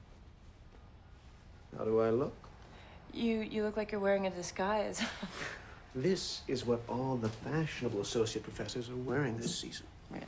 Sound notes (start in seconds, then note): 5.5 chuckles